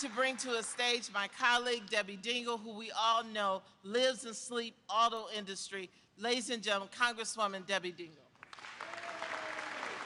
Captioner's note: applause